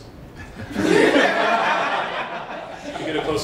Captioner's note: laughter